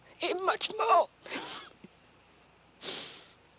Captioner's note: laughs